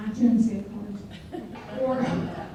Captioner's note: people laugh